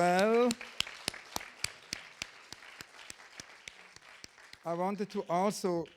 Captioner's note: audience applauding